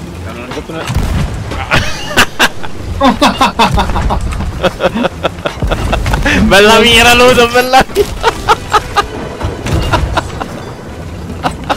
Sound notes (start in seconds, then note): 1.5 manic laughs